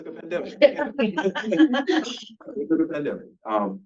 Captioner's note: panelists laughing